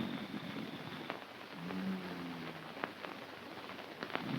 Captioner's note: snoring